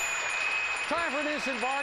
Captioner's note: audience applauding; bell dings